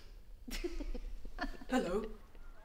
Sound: both laughing

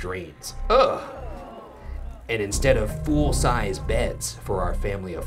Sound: gasps

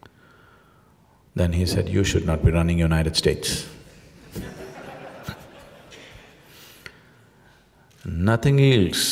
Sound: laughter

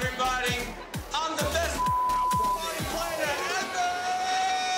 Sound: beep

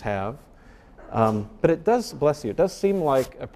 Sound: person sneezing

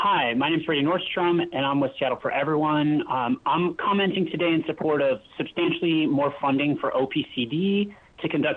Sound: speaking spanish

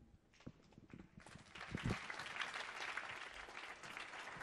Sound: audience applauding

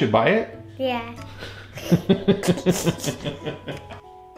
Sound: hahahaha!

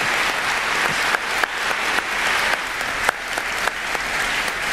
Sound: applause

